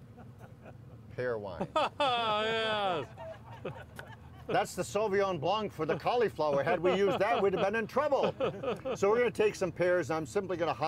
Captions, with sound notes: Pear Wine. - Oh yes. (audience joyfully engaged in laughter) - That's the Sauvignon Blanc for the cauliflower had we used that we'd have been in trouble. So we're going to take some pears.